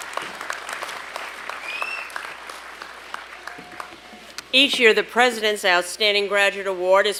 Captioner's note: applause